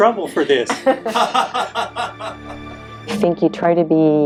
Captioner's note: laughing